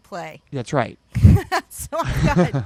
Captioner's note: both laugh